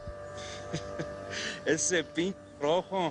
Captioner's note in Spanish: Ríe